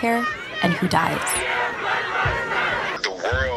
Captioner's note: protesters chanting